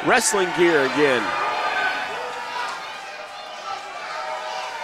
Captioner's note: crowd jeering